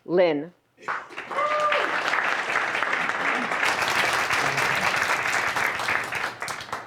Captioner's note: applause